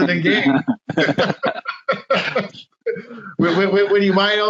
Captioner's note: laughing